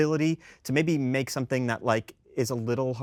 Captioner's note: none